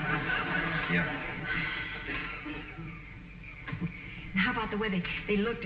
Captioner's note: audience chuckling